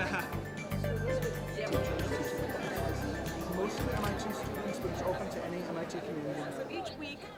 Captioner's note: laughter